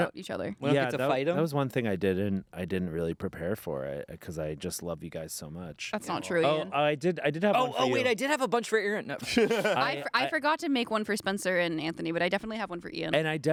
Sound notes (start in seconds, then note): 9.2 everyone laughs